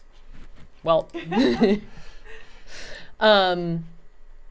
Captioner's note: laughing